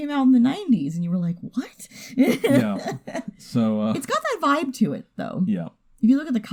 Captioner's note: chuckles